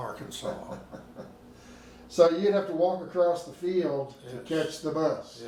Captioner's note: laughing